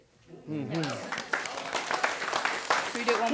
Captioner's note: affirmative response, applause